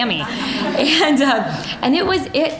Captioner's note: audience laughing